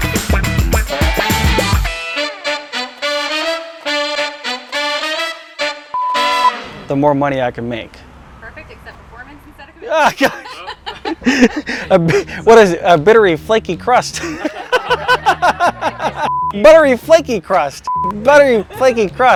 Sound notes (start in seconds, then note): 9.8 laughing